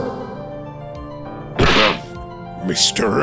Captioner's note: ahem!